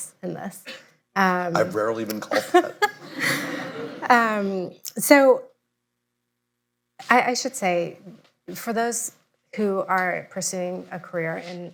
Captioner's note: laughter